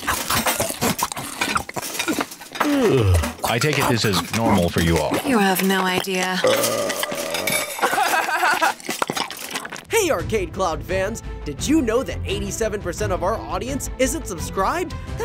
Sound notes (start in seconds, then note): 0.1 both munching; 6.0 Naruto burps; 7.7 Naruto laughs